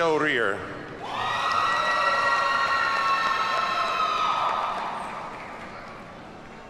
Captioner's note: audience cheers and applauds